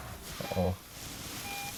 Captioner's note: car beeping